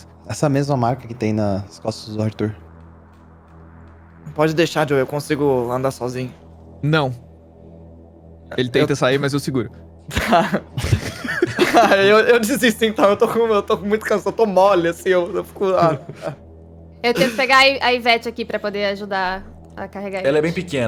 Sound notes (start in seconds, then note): 10.1 laughter; 10.1 laughing; 17.1 tired grunts